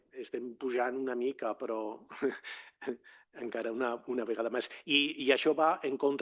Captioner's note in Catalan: rialles